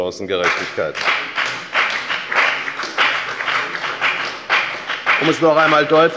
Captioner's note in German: Beifall bei der FDP und bei Abgeordneten der SPD